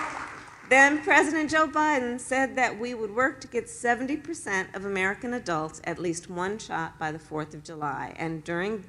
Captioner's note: applause